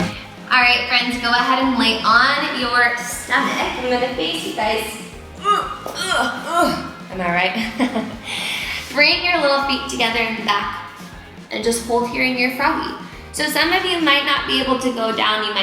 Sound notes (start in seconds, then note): 5.3 groans; 7.5 laughs